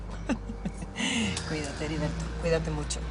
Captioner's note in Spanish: Risas